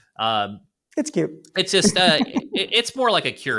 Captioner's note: laughs